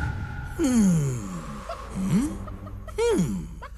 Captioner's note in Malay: Chachix menggumam